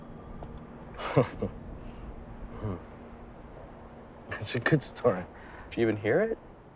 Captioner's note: chuckles